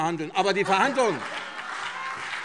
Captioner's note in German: Beifall CDU und BÜNDNIS 90/DIE GRÜNEN